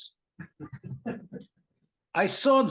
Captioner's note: laughter